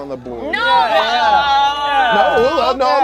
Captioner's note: overlapping chattering